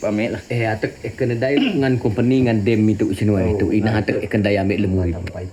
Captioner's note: speaking in foreign language